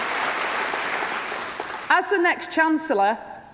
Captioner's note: applause